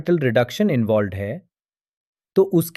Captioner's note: pause